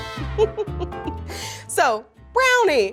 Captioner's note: laughs